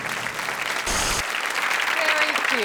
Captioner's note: audience applauds